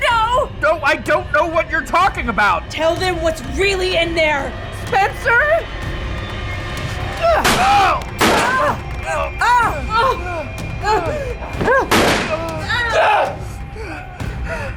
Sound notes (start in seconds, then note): 8.2 gunshot firing; 8.3 Emma grunting; 8.3 Nathan grunting; 11.9 gunshot firing